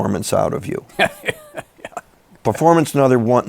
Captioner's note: laughs